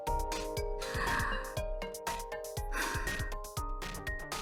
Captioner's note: exhale